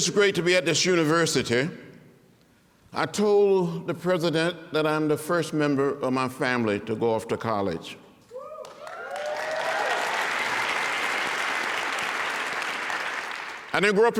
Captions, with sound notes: I told the president that I'm the first member of my family to go off to college. [APPLAUSE AND CHEERING] I didn't grow up in a big city like Washington.